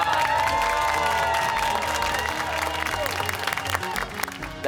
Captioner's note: cheers and applause